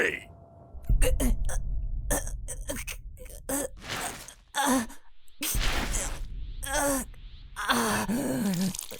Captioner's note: Gohan grunting 'cause HE PROTECTED VEGETA